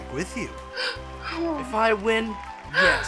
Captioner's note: מתנשפת